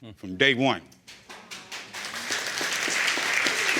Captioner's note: audience applauding